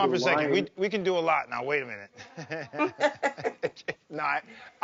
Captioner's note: laughs; laughing